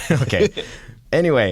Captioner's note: laughter